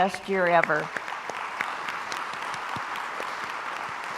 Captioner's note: crowd applauds